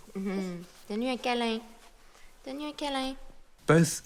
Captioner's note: giggling; speaking in French